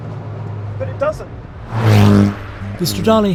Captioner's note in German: Motorgeräusche gehen weiter